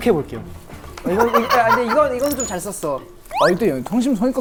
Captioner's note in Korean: 푸하핰